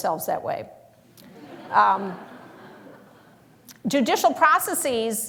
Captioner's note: laughter